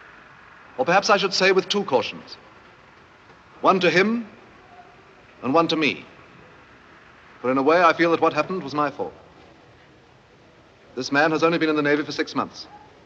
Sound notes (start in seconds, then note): none